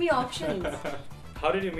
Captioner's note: laughing